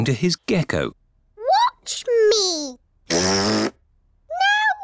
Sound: blows raspberry

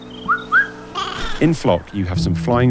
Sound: bird whistles

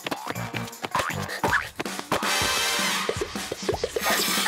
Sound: boink boink boink

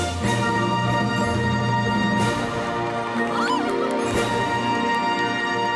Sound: applause

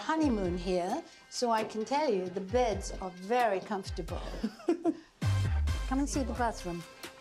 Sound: chuckles

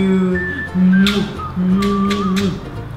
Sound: kisses

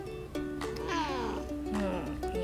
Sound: meow

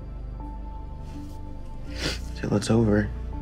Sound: sniffs

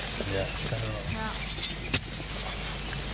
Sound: birds chirping

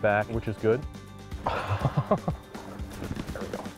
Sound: laughs at missing a fish

